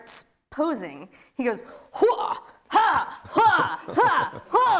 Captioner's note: yells